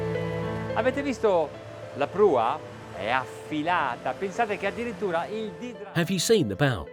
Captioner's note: speaking in foreign language